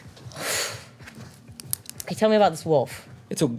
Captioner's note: sighs